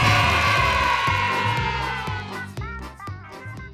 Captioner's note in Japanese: 大歓声